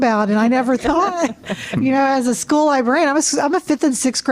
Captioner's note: laughter